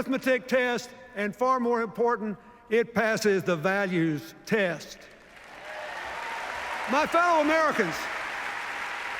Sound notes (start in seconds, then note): 5.3 cheers, applause